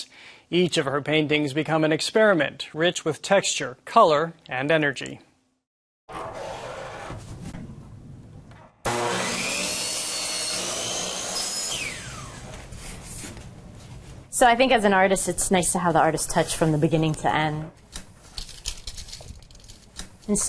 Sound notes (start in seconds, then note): 8.8 saw buzzing; 18.2 objects rattling